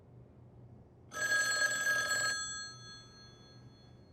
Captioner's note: phone rings